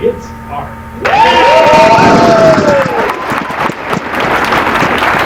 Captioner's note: applause